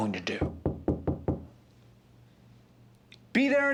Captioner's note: someone knocking at the door